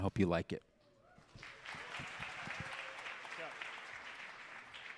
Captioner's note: audience applauding